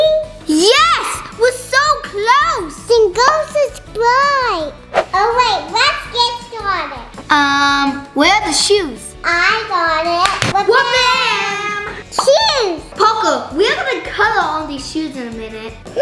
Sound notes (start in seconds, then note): 10.2 claps